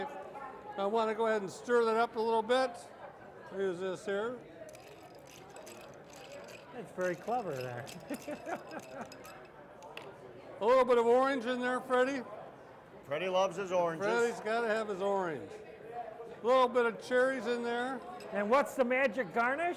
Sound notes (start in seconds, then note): 4.6 ice cubes clinking against glass; 7.9 laughing